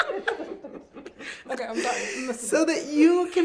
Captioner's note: laughing; all laughing